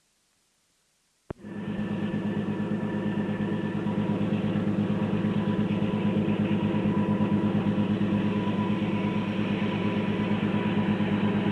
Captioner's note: sound of train moving